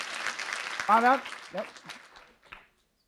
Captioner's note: applause